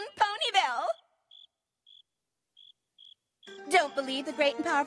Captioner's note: crickets chirping